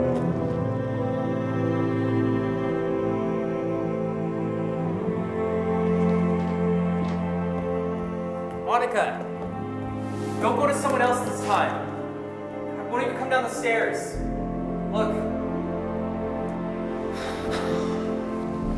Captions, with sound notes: Monica! Don't go to someone else this time. I won't even come down the stairs. Look. (sighs)